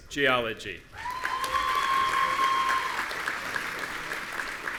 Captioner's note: audience cheering